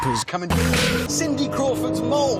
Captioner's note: stock unedited whip sound effect